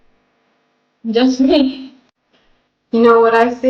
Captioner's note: laughing